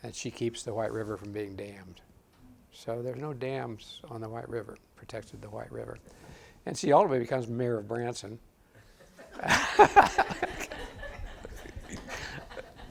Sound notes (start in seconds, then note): 9.1 audience laughs